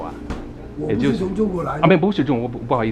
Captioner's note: mandarin